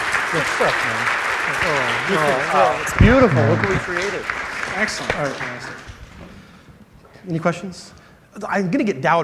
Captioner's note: applause